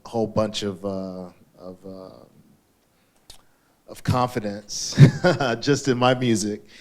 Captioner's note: laughs